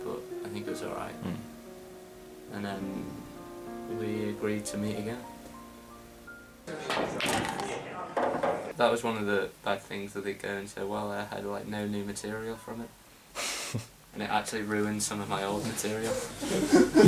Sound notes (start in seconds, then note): 13.4 Arnold chuckles